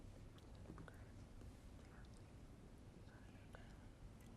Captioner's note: whispering